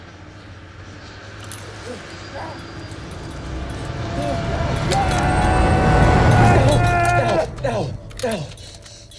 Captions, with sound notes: (yelling) Dao, Dao, Dao, Dao.